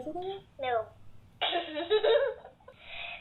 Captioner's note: giggling